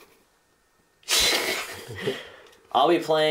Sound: laughing

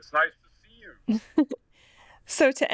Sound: chuckles

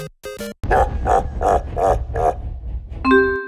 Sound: Bowser laugh

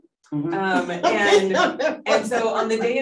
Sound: laughing

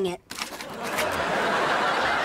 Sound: laughing

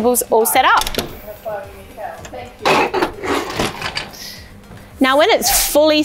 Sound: camp table squeaking

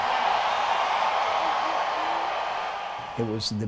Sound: crowd cheers

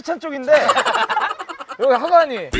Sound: cracking up

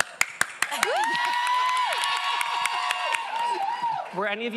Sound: cast members cheering; audience cheering

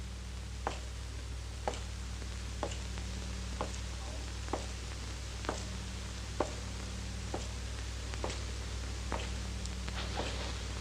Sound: rhythmic steps

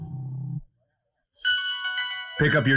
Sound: phone ringing

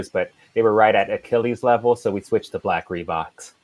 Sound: none

